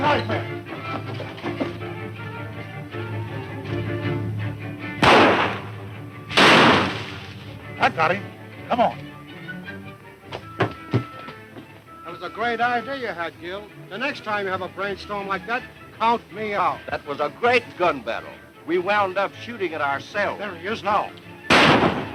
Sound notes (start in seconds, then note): 0.0 fast tense music; 0.7 feet scuffling on the floor; 6.3 loud gunshots; 6.4 branches rustling; 10.2 footsteps on wood